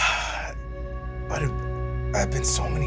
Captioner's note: Bobby sighs